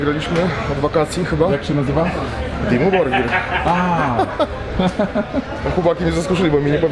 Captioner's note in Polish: śmiech